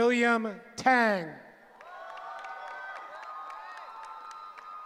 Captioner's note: cheering